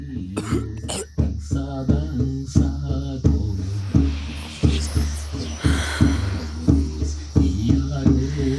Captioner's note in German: räuspern